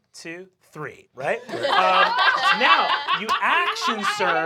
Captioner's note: laughter